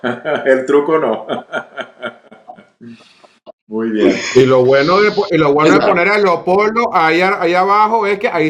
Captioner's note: laughs